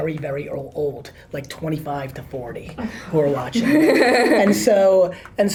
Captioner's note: laughs